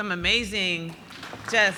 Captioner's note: applause